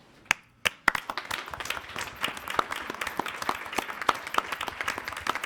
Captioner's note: attendees applauding